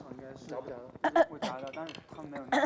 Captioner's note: cough